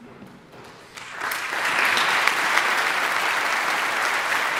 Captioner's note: audience applauding